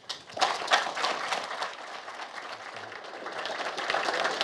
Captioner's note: audience applauds